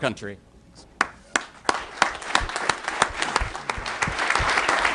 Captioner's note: applause